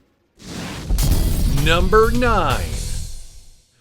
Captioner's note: explosion rumbles